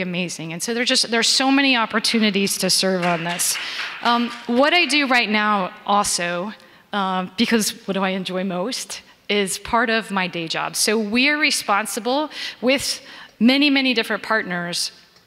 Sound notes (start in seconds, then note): 2.8 audience members clapping